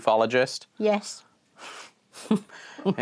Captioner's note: chuckles